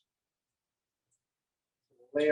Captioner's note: silence